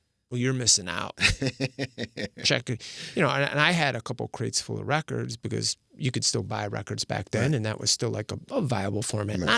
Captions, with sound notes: Well, you're missing out. (laughing) And I had a couple crates full of records, because you could still buy records back then, and that was still like a viable format,